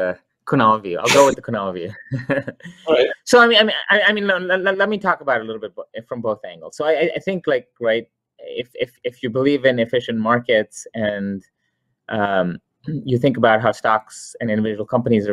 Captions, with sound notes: or do you want the Kunal view. I'll go with the Kunal view (chuckles). So, I mean, let me talk about it a little bit from both angles. So I think like, if you believe in efficient markets and you think about how stocks and individual companies